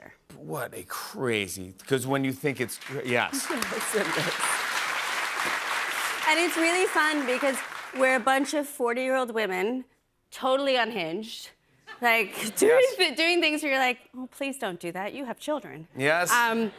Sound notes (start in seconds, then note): 2.2 applause